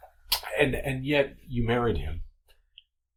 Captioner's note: none